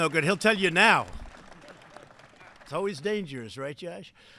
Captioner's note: applause